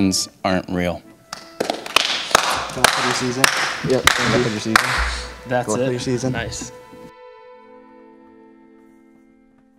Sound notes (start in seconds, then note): 1.3 clapping